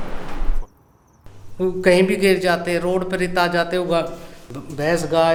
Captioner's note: trucks